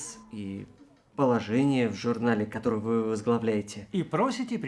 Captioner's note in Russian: none